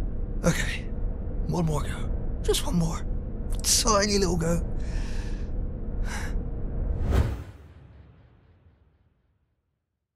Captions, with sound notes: Okay... One more go. Just one more! A tiny little go. *breath*